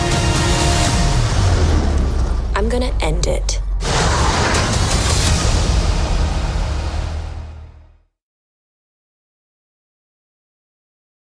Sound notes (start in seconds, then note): 0.0 dramatic music; 3.5 whooshing